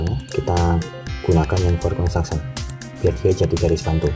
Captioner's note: click